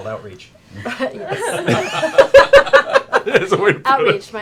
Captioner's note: laughter